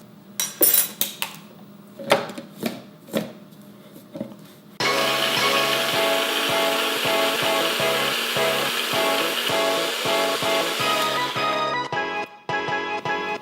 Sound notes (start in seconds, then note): 4.8 blender whirs; 4.8 upbeat music